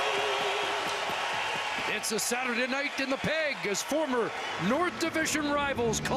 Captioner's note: cheering and Applause